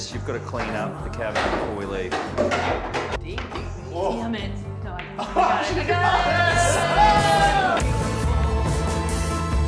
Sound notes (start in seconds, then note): 2.1 cue ball hit; 5.2 Mark and Isabella cheer, music increases; 7.6 rock music continues